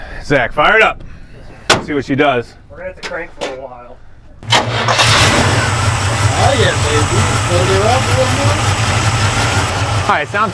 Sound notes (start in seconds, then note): 4.4 engine starts; 8.4 engine roars